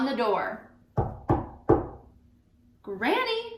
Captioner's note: knocking on table